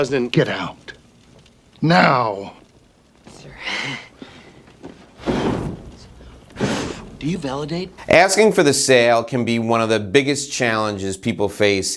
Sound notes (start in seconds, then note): 5.0 blowing noise